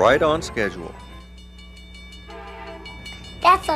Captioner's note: crossing bells dinging; train whistle blowing